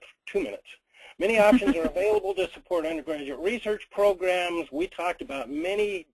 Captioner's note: laughs